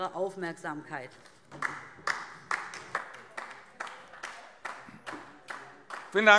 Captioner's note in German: Beifall DIE LINKE